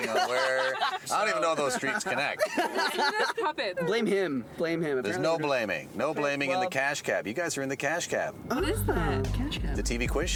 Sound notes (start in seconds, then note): 1.7 laughing